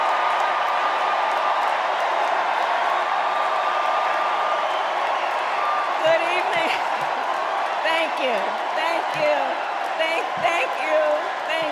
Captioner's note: cheers and applause